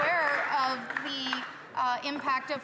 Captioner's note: some Applause